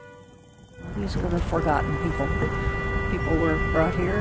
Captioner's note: voiceover